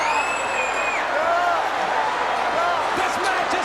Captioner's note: crowd cheers